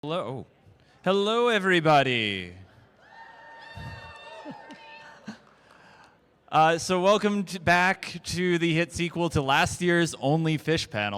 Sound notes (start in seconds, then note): 3.0 cheering